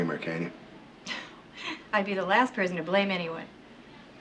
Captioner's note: chuckles